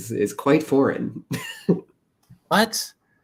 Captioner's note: laughter